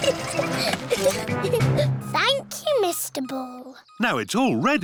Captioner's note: giggling